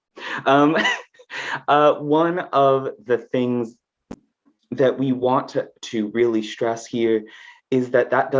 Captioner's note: chuckles